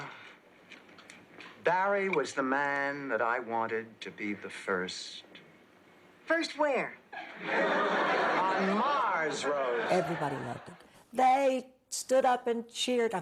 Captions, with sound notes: - Ah, Barry was the man that I wanted to be the first. - First where? (Laughs) - On Mars Rose! - Everybody loved it, they stood up and cheered I mean